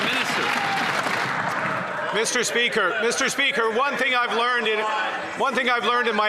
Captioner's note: some Applause